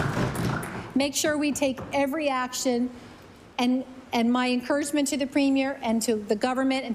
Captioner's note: applause